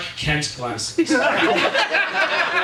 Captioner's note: audience laughing